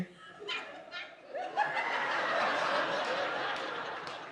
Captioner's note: all laugh